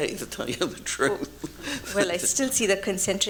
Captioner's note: chuckles